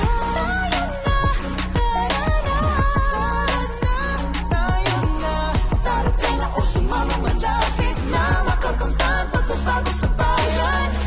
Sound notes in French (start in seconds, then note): none